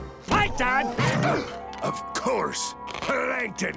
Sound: gasping

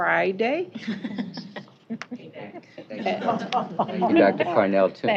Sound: laughter

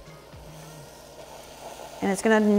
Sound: pan sizzles

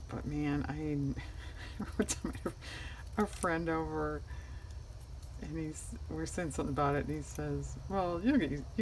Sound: laughs

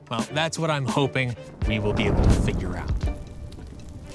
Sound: fire roars; crackling

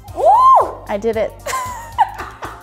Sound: woman screaming; woman laughing

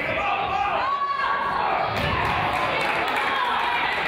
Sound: coaches yell; crowd applauds

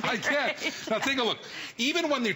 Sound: laughter

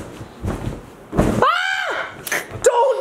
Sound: screams

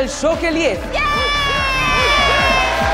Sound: cheering

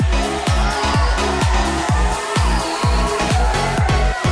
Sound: upbeat music; audience cheers

